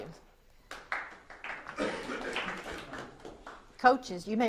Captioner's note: audience applauds